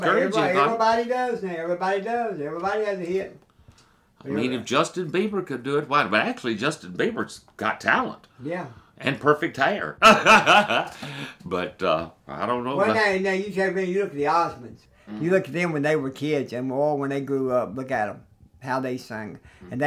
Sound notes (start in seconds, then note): 10.0 laughs